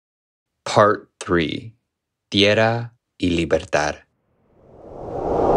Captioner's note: non-English language spoken